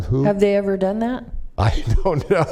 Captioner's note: laughter